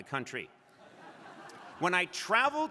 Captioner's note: crowd laughing